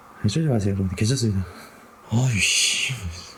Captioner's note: exhalation